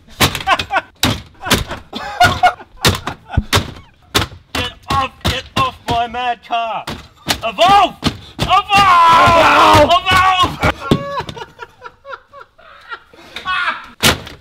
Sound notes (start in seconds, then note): 1.4 laughs; 10.5 laughs